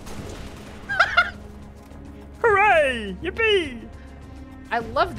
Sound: goofy voice

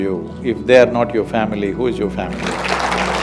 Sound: applause

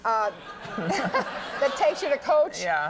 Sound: audience laughing

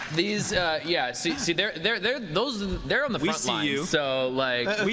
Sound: applause

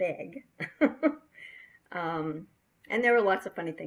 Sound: laughing

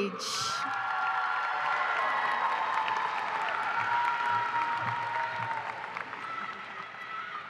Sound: cheering and applause

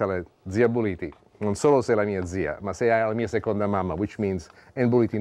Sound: speaking Italian

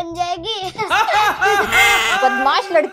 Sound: laughing

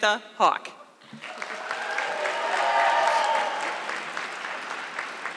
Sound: audience clapping

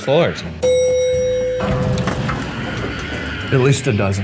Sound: elevator dings

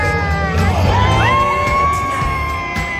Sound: scream

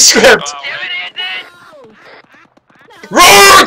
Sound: defeated cries

